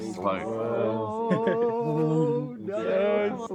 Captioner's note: whooping